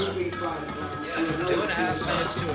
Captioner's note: telephone ringing